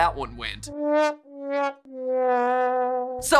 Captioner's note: sad trombone sounds